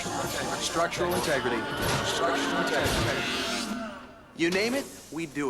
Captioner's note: echo